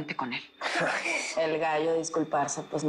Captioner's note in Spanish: Risas